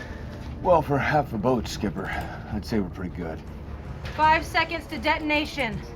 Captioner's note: none